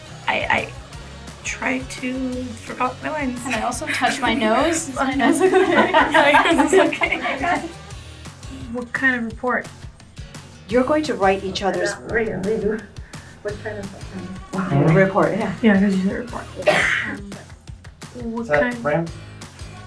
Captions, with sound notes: I...I, tried to...forgot my lines. ...and I also touch my nose...is my nose ok? [ laughing ] What kind of report? You're going to write each other's... Re-do. What kind of thing. Report, yeah. Yeah, it's supposed to be report. What kind... Set, frame.